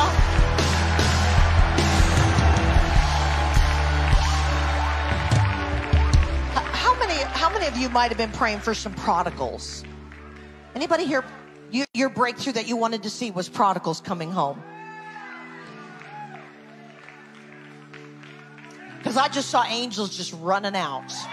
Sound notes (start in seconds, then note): 0.0 people cheering; 5.8 gentle music; 9.8 audience claps distantly; 14.8 audience member cheers; 17.2 audience claps